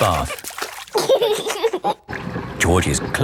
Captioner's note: giggling